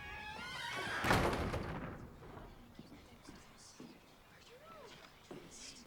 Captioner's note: students murmuring